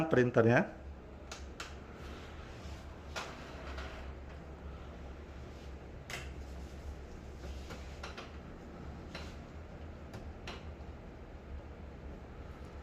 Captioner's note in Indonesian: suara mesin printer